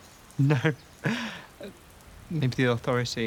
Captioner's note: laughs